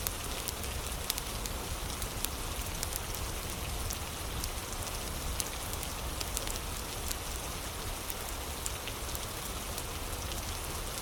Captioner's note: fire crackling